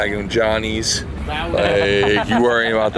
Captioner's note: laughing